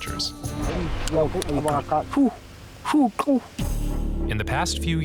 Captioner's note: san bushmen making noises